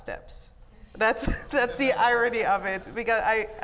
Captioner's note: laughs